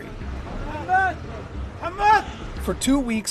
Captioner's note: shouting